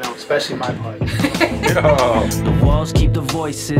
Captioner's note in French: rires